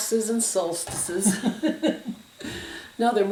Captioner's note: both laugh